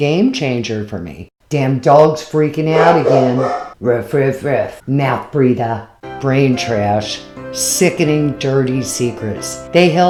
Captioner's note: dog barking in the background